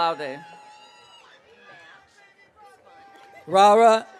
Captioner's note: audience cheering